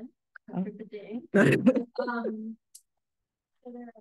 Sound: laughs

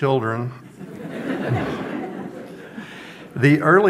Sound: audience laughs

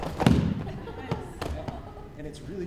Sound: laughter

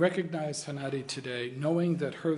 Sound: in arabic

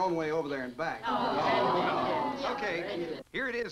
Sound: party goers groan

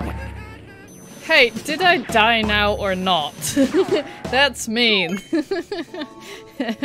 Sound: laughs

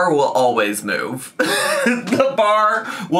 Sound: laughs

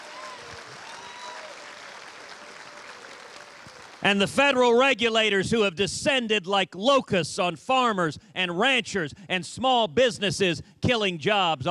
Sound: cheers and applause

